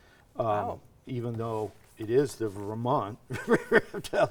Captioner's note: laughing